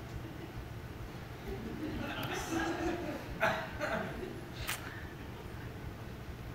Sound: laughter from the audience

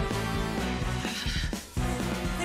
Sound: breathes heavily

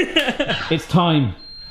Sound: laughing

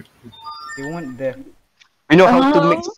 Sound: notification mm

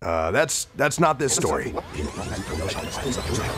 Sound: rewinding

